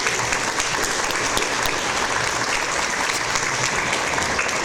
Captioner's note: audience applause